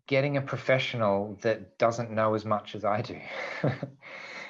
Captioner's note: laughs